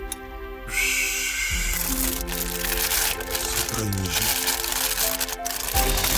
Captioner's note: laughs